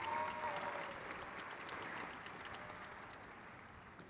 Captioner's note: crowd claps